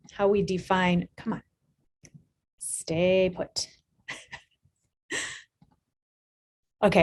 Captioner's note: chuckling